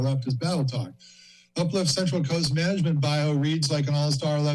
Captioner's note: inhales